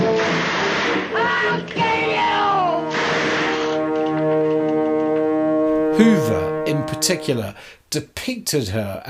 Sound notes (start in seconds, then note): 0.1 gunshots ringing out; 2.9 gunshots ringing out